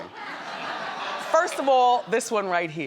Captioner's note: audience laughs